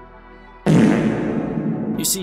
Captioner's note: reverberated fart sound effect